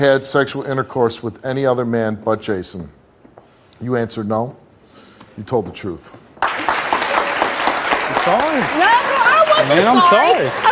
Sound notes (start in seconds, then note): 6.4 applause